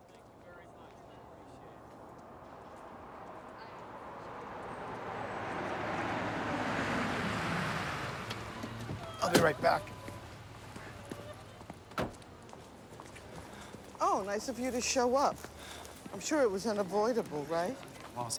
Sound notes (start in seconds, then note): 11.2 woman sobs